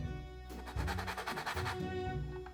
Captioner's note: grating